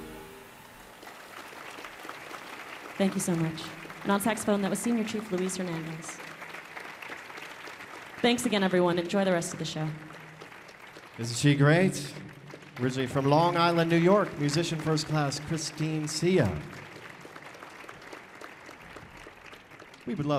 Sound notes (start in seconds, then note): 1.1 audience applauding; 16.9 audience applauding